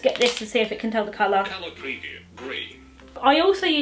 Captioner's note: phone speech